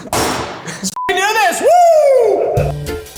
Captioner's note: beep